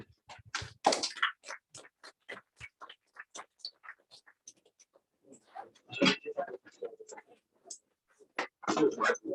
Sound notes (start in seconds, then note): 0.5 applause; 3.7 background chatter